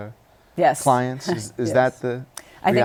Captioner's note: laughs